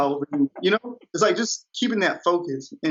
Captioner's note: laughs